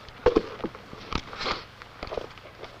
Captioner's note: crunching; soft clank; sniffles